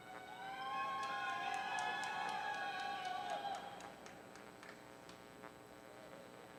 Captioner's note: audience cheering